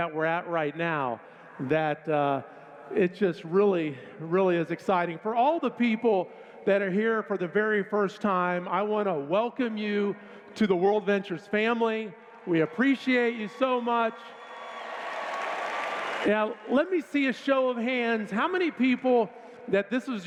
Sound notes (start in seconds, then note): 14.3 cheers